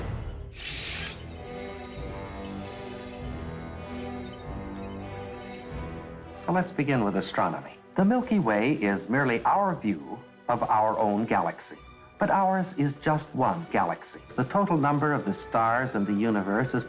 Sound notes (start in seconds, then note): 0.7 digital beeping; 2.6 deep somber music